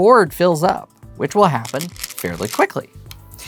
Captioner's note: stones rattling